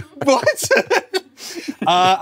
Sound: both laugh

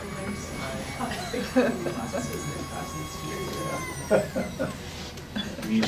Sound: Kiwibot grinding; murmuring

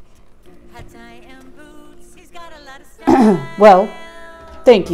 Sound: clears throat

